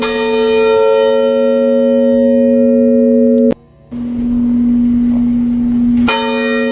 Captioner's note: AUDIO: Deep bell resonance carries through the space